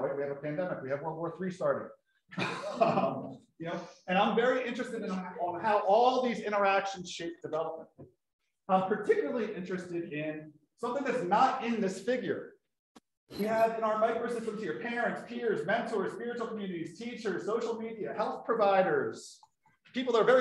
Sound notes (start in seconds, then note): 2.4 laughs